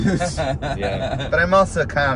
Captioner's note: laughing